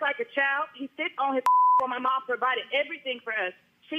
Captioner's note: beep